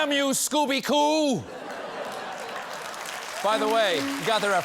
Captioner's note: applause